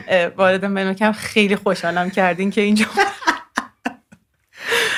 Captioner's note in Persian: خنده